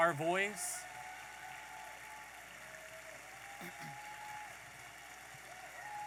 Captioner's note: audience applauding and cheering